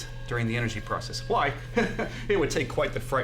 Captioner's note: chuckles